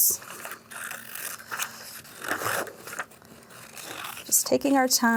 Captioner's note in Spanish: traqueteo de tijeras